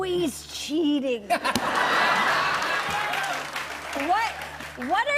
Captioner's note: laughter